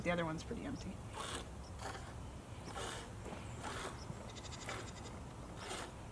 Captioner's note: milk squirting into bucket